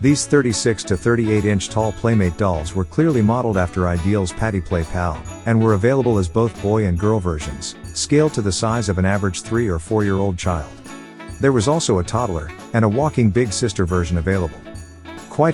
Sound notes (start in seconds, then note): none